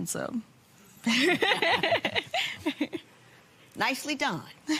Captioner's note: laughs